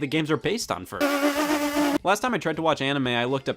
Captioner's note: pfffffffff